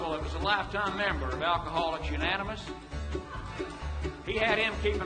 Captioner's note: audience laughing